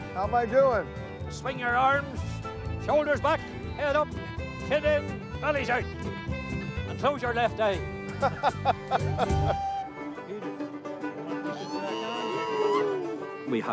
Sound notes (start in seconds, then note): 8.2 chuckles; 10.4 folk music